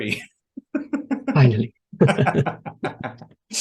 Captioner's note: they laugh